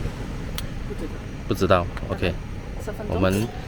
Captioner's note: boil